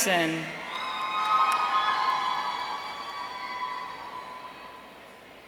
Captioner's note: audience cheering